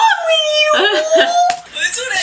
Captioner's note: laughs